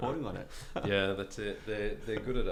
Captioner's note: laughing